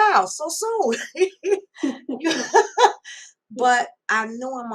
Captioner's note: laugh